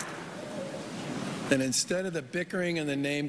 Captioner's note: applause